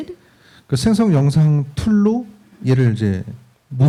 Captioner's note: speaking korean